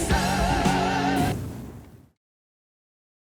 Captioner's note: fwoosh